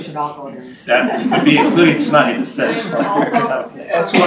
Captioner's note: laughter